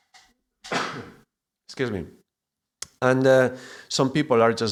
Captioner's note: cough